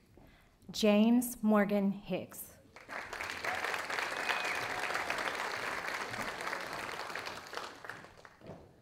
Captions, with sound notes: James Morgan Hicks. (audience applauding)